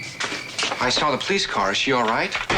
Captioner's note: door unlocking